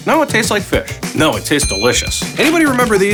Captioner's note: bell dings